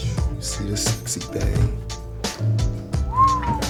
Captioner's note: whistles